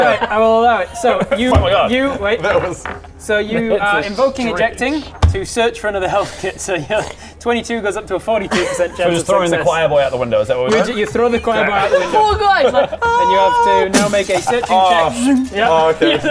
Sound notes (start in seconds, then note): 13.8 boof